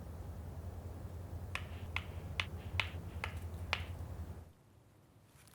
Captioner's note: rocks banging together